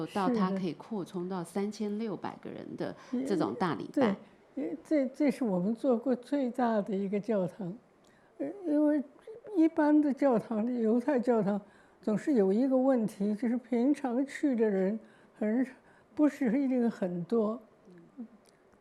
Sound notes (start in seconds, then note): 5.6 Mandarin